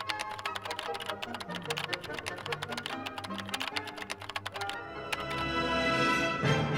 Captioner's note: keyboard tapping; classical music